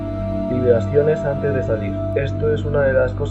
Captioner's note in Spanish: Vibraciones